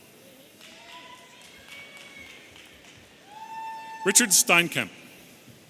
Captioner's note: audience applauding and cheering